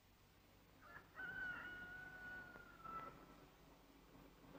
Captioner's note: rooster crows